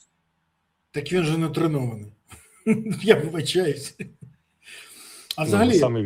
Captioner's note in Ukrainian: сміх